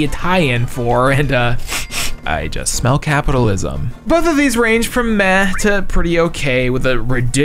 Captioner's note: sniff